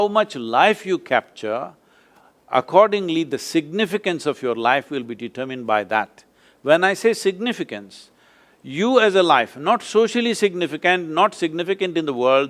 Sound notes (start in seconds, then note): none